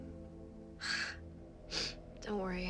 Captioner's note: Mattie sighs; sniffles